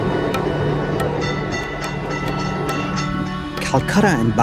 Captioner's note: bell dinging